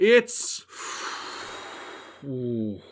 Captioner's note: exhales deeply